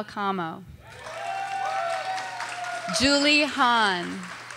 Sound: audience cheers and applauds

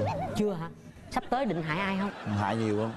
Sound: laughing

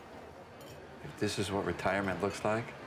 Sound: normal voice

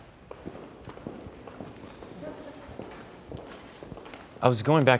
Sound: footfalls thud loudly

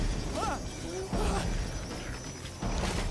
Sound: gasps

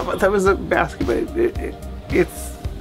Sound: speaks faintly

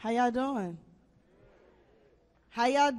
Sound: audience murmurs

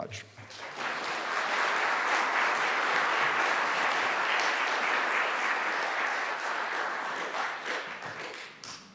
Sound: applause

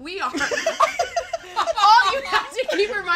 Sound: all laughing

